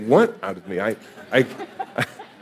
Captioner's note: audience laughing